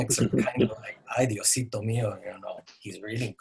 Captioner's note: speaking in a foreign language